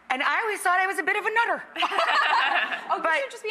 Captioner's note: group laughing